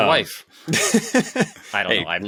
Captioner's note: laughs